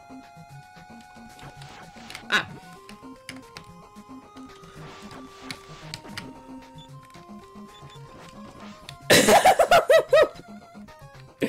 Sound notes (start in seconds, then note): 9.1 cough; 9.1 laughing